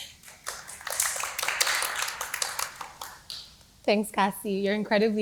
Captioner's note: applause